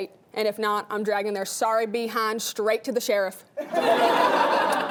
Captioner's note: laughing